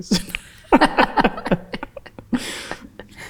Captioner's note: laughs